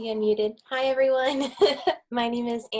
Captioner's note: chuckles